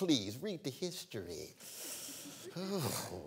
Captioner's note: laughter